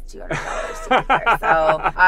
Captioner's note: laughing